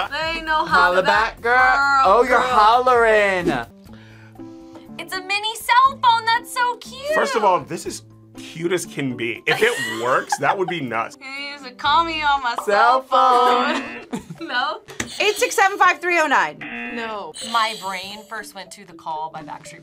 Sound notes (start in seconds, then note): 13.6 buzzer; 16.5 buzzer rings; 16.6 buzzer